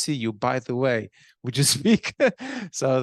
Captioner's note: laughing